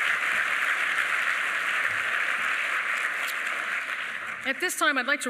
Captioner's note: applause